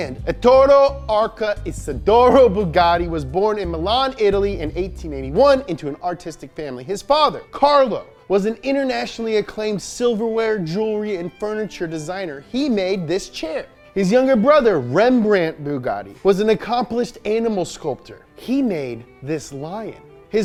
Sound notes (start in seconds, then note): none